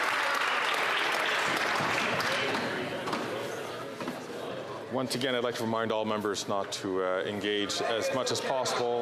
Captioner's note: some Applause